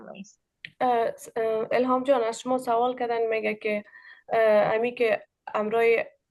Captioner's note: speaking in Dari